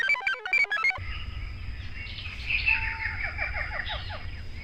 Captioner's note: computer chirps; jungle sounds